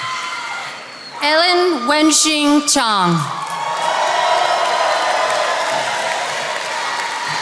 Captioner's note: attendees applauding